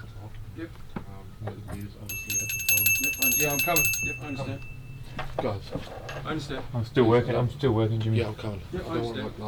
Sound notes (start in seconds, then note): 2.0 Chad rings bell